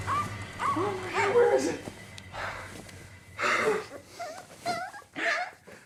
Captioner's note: dog barking; gasping; dog whining